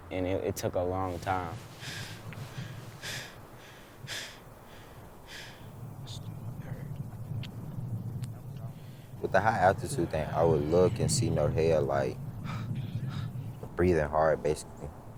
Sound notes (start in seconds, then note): 3.0 panting; 13.1 pants